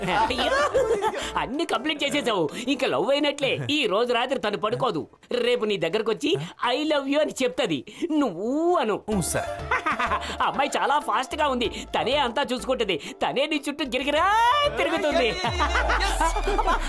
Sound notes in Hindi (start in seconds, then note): 9.6 हँसी